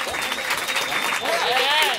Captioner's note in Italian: applausi